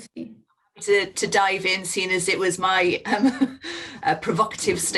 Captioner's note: chuckles